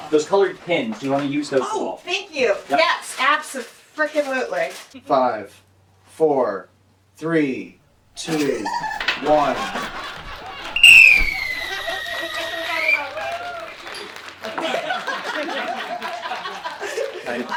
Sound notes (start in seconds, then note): 8.2 laughter; 10.7 whistle blows; 14.4 applause